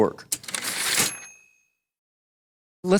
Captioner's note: typewriter ding